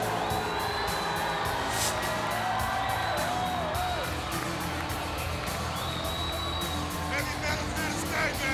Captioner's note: crowd cheering